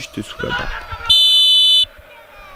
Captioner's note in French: sifflet